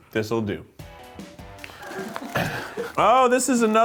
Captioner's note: laughing